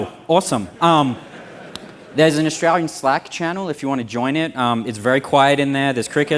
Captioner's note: laughter